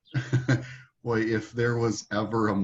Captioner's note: laughing